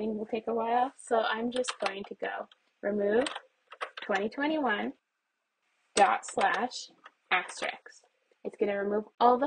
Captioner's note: keyboard presses